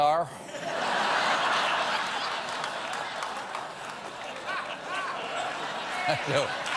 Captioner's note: laughter